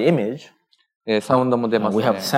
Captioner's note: speaking japanese